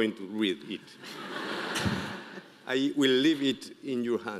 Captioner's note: audience laughing